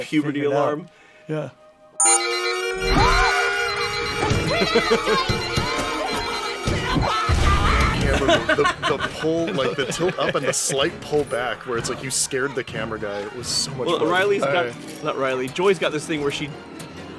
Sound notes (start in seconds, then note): 2.0 alarm starts blaring